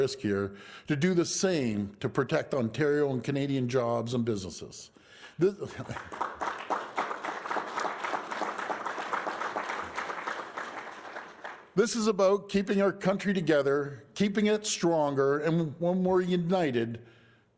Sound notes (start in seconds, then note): 5.6 applause